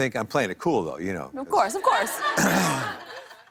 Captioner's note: laughter